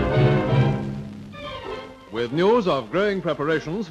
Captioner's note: dramatic music; voiceover